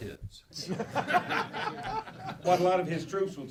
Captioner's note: laughing